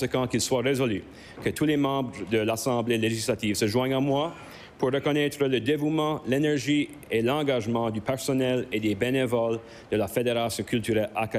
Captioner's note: speaking french